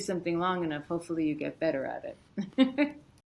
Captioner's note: chuckles